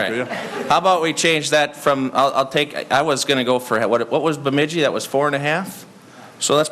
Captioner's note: laughter